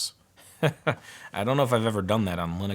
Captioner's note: laughs lightly